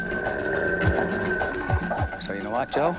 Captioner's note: growling